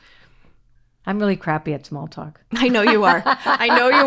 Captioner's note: laughs